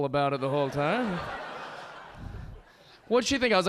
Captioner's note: audience laughing